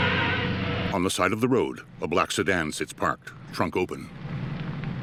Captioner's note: car approaching